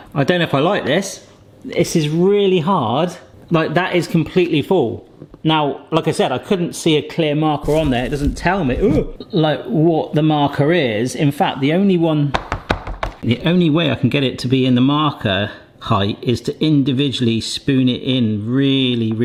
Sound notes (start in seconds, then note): 12.3 breadstick maker banging